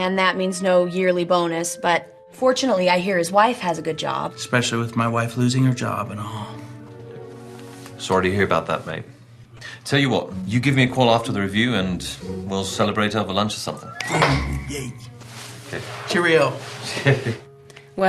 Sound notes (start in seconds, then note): 6.7 mischievous music; 14.7 hands slaps; 16.9 chuckles